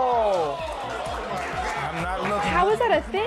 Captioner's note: crowd cheering